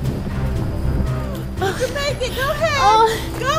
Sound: laughs

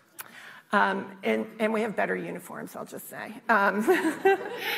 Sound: laughter

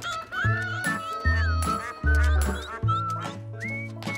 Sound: rooster clucks

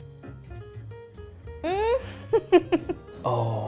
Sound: giggling

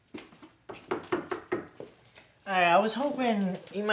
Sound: knock knock

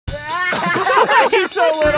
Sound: laughing

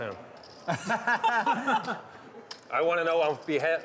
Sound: laughing

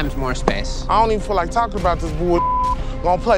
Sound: beep

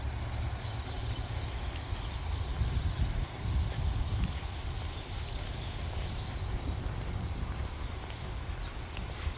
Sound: screaming birds

